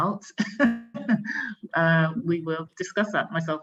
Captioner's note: laughs